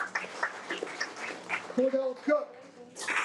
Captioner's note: audience applauding